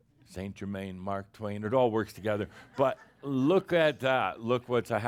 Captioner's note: a few chuckles